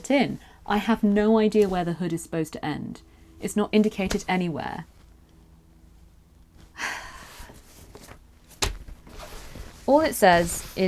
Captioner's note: sighs